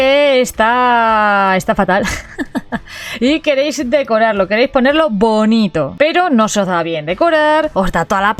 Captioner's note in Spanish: risas